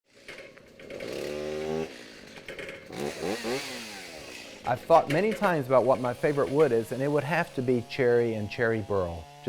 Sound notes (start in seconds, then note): 0.7 chainsaw buzzing